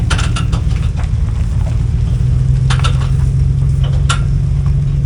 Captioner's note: engine humming